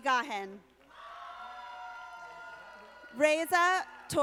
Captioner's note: audience applauding